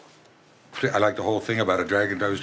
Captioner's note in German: englisch